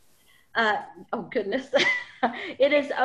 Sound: laughs

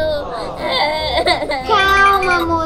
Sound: crying

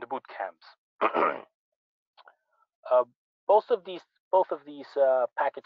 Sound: clears throat

